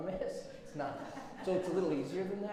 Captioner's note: audience laughs